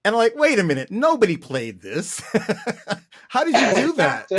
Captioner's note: laughter